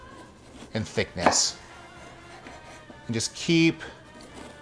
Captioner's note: chopping